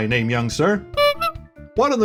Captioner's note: clown honk